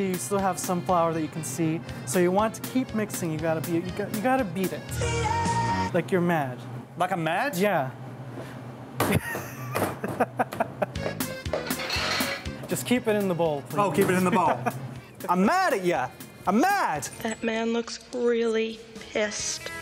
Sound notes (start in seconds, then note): 9.1 chuckles; 10.9 uptempo traditional music